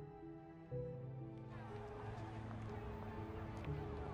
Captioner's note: crowd talking